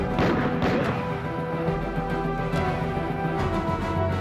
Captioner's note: gun fires